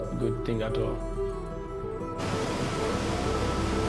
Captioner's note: water roars